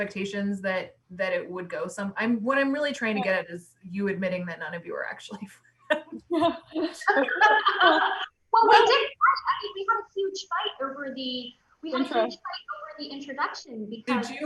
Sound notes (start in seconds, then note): 6.0 loud laughs; 6.1 overlapping chatter